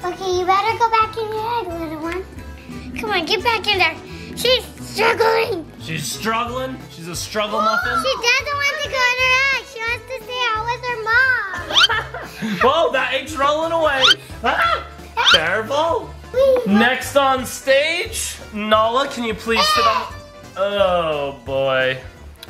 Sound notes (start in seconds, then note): 11.7 mom laughing; 14.4 dad yells; 19.5 screams